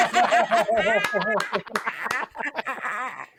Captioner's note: laughter